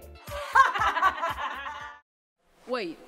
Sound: laughs

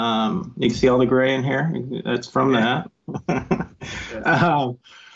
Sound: laughs

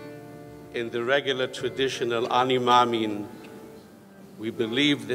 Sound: speaks in foreign language

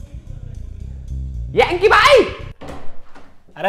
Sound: shouts

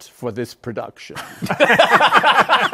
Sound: laughter

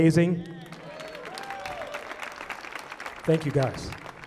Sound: audience applauding

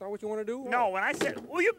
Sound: sled thumps

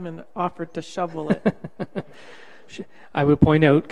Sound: laughs

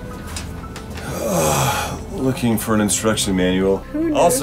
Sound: moaning

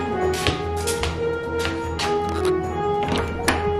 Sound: piano continues playing; foot steps

